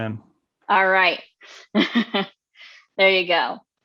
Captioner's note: laughs